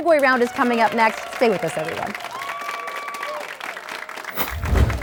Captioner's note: applause